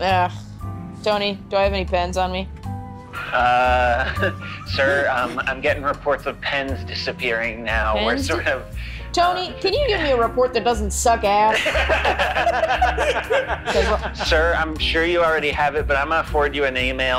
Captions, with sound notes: - Agh... Tony, do I have any pens on me? - Sir, I'm getting reports of pens disappearing now. - Pens disa--? - Tony, can you give me a report that doesn't suck ass? (laughing) - Sir, I'm sure you already have it, but I'm gonna forward you an email.